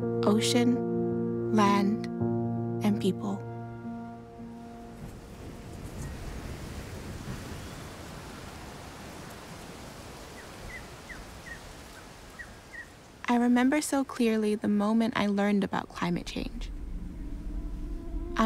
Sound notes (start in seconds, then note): 4.6 waves crash; 8.6 wind rustles, birds chirp